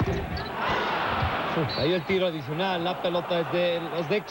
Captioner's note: laughing